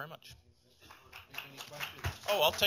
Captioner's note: applause